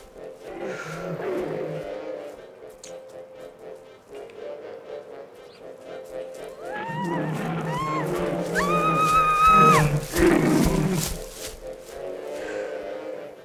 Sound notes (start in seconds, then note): 8.3 robot-gorilla roars; 8.3 young woman screams